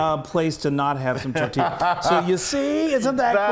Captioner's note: laughter